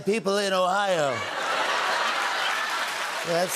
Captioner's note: laughter, cheers, applause